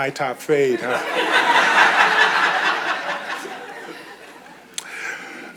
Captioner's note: audience chuckles